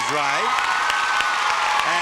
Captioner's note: audience applauding